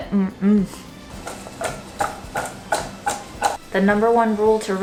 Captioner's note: thudding sound